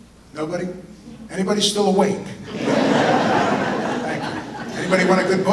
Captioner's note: audience laughter